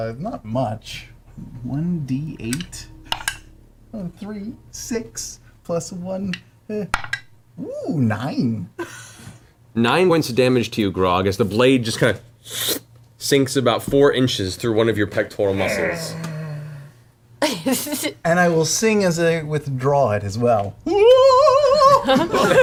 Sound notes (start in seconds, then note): 15.4 grunts; 21.5 sings a note